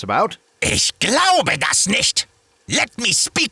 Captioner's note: seething german